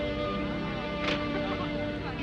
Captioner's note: car door closes; horns honk